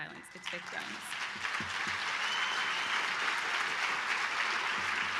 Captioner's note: cheering and applause